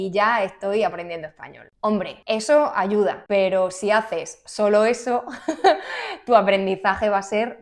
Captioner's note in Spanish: risas